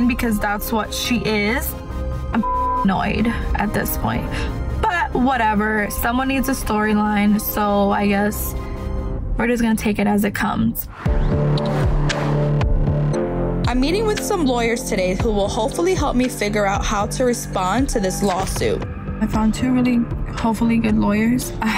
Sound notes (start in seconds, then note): 2.8 beep; 11.1 mellow music